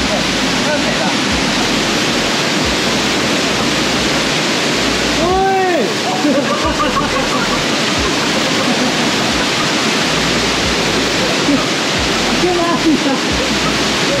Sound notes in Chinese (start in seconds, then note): 6.1 一陣爆笑